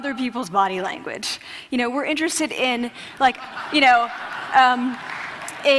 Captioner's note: laughter